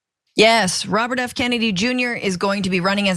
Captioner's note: laugh